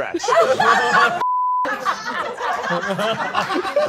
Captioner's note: all laughing